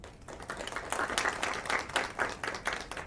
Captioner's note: applause